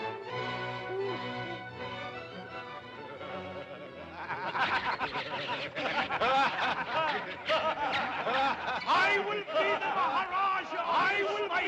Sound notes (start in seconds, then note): 1.8 men cackle; 4.6 monkeys squawk; 4.6 men cackle; 10.4 men cackle; 11.4 voice echoes